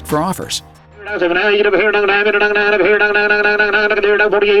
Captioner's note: rapid auction talking